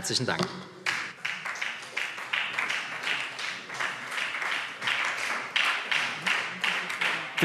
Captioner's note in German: Beifall SPD